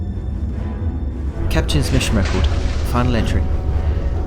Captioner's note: metal creaking and breaking